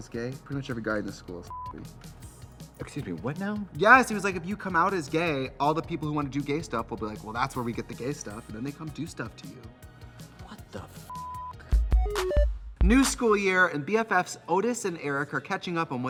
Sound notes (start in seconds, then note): 1.5 beep; 11.1 beep; 11.8 fun music